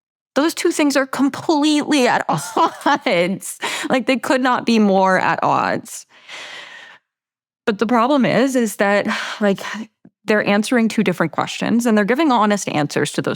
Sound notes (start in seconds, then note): 2.3 laughs